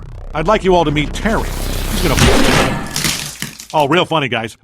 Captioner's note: blam!